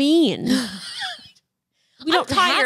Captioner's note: laughs